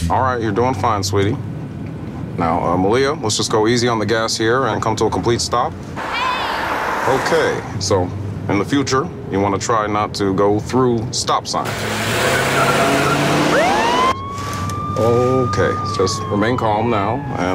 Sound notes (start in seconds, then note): 11.6 car tires squealing; 13.8 police siren wailing